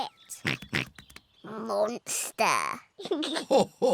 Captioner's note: oinks; giggles; laughs